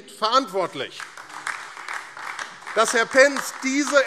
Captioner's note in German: Beifall AfD